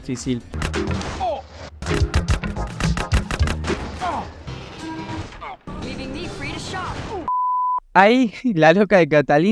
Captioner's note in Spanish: moto chocándose múltiples veces